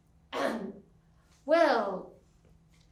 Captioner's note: clears throat